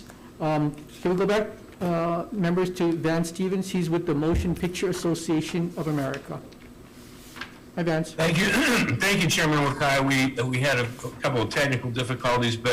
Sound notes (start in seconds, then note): 9.5 coughs loudly